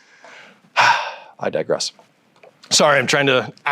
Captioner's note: sighs